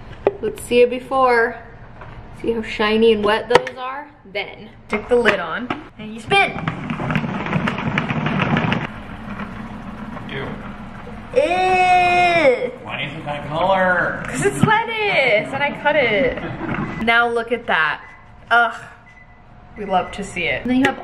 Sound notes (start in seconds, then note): 7.3 spinner rumbles; 10.2 groans; 16.4 laughs